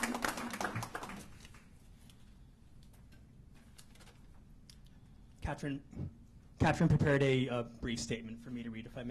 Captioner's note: applause